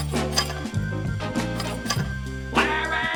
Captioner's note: toilet clinking